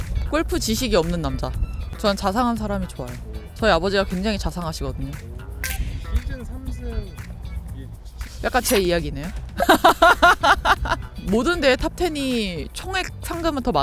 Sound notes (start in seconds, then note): 9.6 big laugh